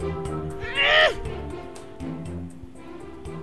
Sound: kid grunting

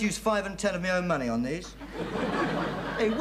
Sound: audience laughing

